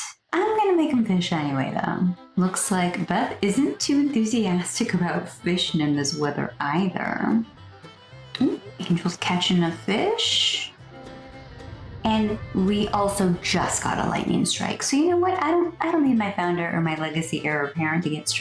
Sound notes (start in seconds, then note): 11.2 thunder